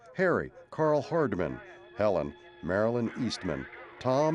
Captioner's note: dogs barking